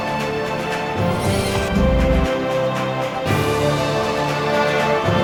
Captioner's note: raptor growls softly; lens whirs; intense dramatic music